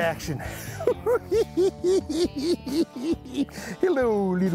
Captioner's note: laughing